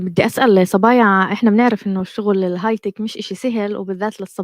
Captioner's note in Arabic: لغة أجنبية